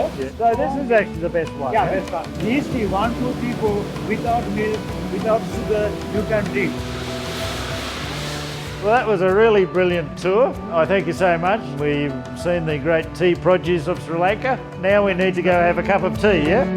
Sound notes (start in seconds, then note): 6.8 sorting machine noise